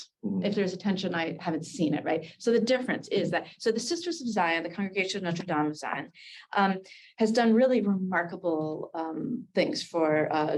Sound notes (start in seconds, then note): 6.4 Hebrew